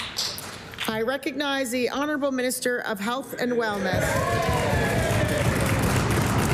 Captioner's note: applause